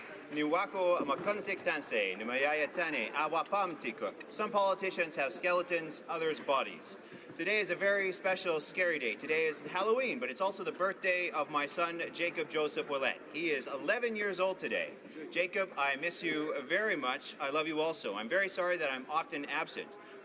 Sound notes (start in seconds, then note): 7.7 speaking native language